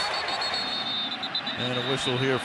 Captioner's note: whistle blows